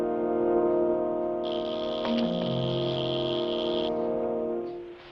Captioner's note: buzzing